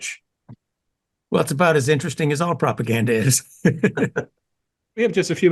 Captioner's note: laugh